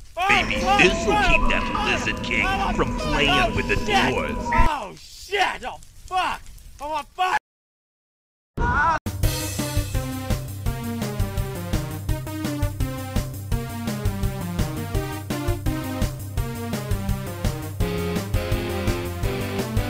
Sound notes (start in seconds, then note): 0.2 Gwonam still screaming in the background; 4.6 Gwonam still screaming